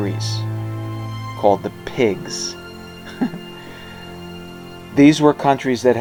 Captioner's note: chuckles